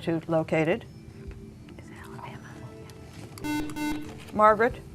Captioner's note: whispering